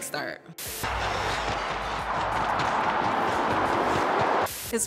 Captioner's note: crowd cheering